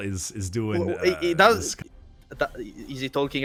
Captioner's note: sounds of disbelief